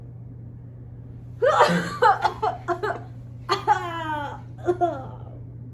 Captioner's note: Pyramus groaning